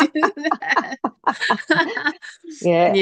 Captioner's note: both laugh